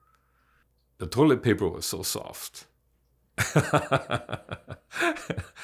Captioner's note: laughs